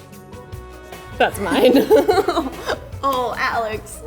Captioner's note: victorious music; laughs